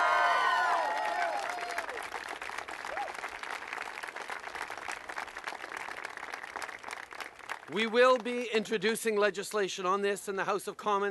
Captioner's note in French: Acclamations et applaudissements